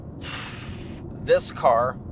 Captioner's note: deep sighs